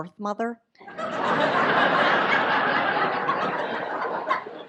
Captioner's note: audience laughs